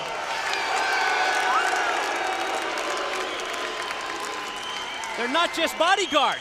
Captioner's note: crowd cheering